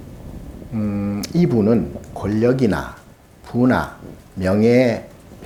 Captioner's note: speaking Korean